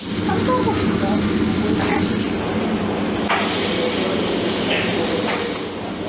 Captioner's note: sizzling sounds